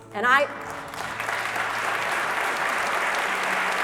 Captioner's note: applause